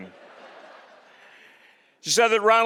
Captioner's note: audience laughing